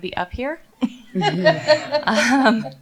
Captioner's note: laughter